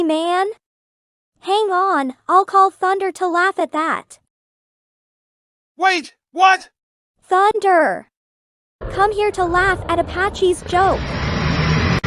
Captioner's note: in terror